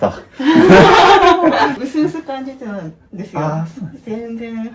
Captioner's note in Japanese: 笑い